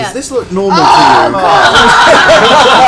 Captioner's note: groans; laughter